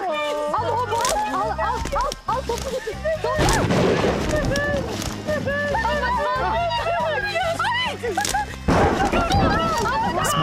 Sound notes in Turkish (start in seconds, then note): 3.0 Bağırma sesleri; 3.4 Gök gürültüsü sesi; 8.7 Gök gürültüsü sesi